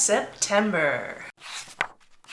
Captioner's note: pages turning